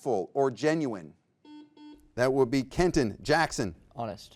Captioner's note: buzzer beeps